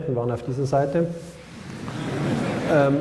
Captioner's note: laughter